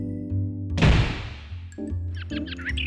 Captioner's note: door slams; bird twittering